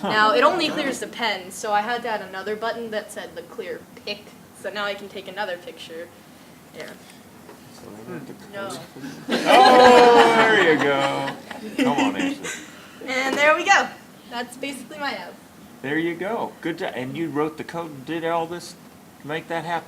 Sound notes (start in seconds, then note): 9.1 laughter; 12.5 laughs